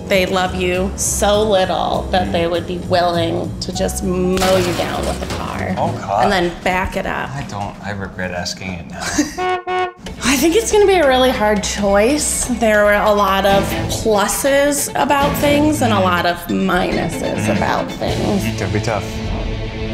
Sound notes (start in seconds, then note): 9.2 horn honks